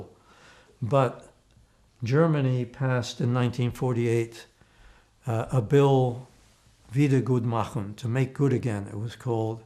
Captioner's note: german